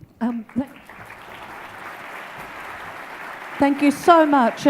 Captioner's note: audience claps